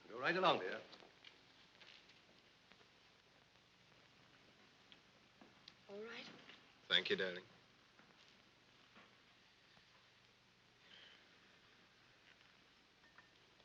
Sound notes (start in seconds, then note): none